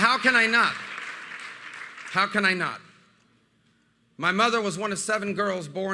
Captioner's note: applause